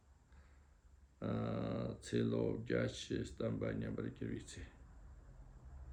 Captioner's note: tibetan